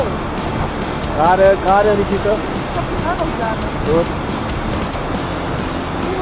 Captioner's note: speaking German